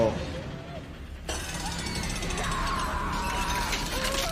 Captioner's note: gears ticking